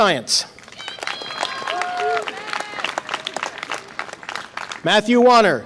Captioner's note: audience applause and cheer